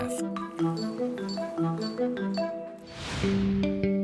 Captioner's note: machine beeping; soft music